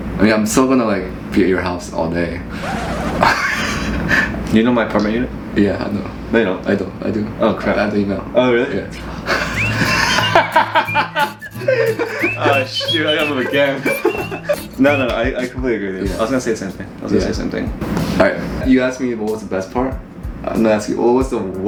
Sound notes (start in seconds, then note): 2.6 laughing; 9.2 laughing